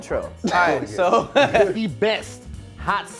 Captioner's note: laughing